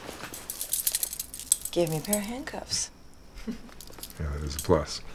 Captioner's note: chuckles